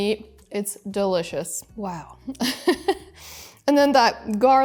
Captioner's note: giggles